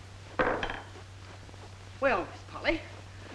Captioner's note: gavel bangs